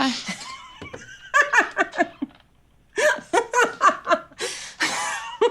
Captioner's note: laughing